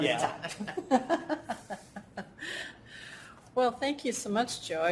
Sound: laughter

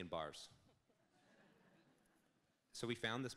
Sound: audience laughs

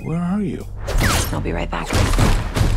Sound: gunshots

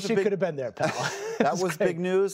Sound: laughter

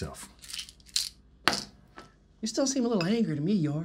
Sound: pills rattling

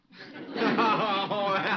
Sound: audience laughing

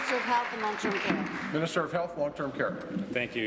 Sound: applause

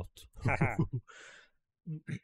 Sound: laughs

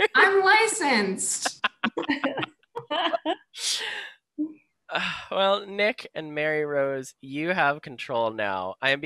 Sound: laughter

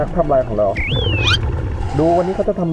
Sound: exhale

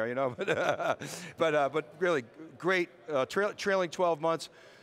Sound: laughs

